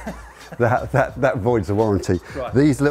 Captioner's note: laughing